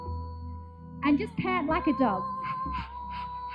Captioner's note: pants